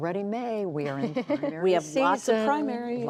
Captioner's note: laughter